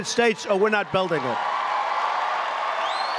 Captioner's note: applause